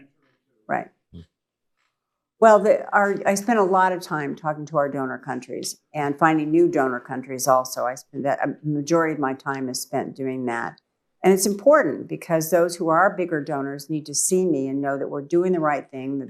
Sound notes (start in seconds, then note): 2.8 off mic